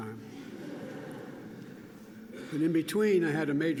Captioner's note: laughter